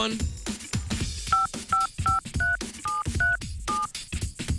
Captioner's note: low- and high-pitched beeping